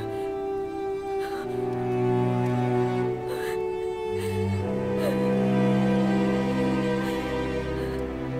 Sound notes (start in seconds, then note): 0.0 Googly sobbing